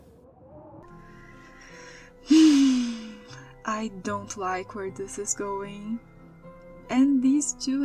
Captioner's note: sigh